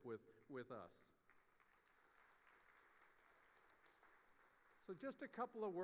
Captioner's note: audience applauding